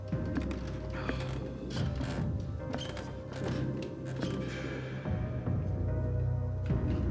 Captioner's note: eerie music continues; stairs creaking